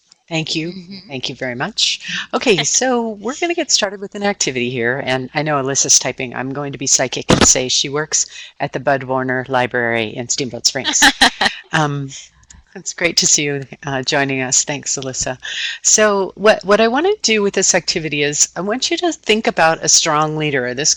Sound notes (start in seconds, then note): 10.8 laughing